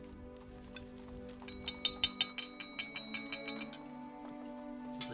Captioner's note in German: Klopfen